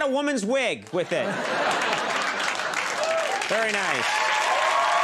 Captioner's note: audience cheers